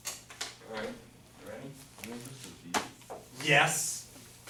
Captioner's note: voiceover